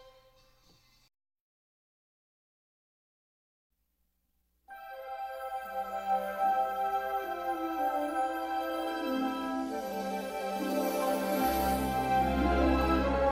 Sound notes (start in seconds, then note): 1.5 silence; 4.7 wondrous fanfare plays